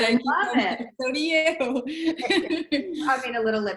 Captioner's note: laughs